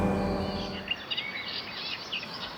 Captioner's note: birds chirping